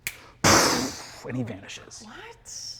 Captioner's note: poofs